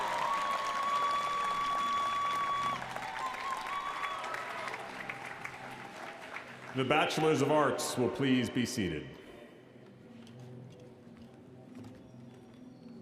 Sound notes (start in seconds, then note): 3.2 applause